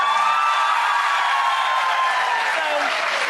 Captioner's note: audience applause